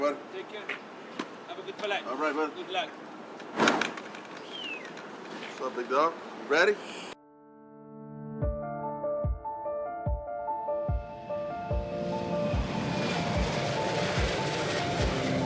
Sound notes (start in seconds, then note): 3.4 luggage clinks; 7.8 uplifting piano music